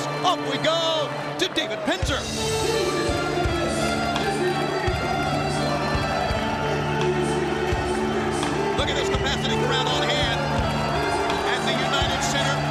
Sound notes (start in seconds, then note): 2.9 dramatic music; 2.9 ring announcer chattering